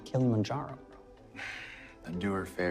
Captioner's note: sighing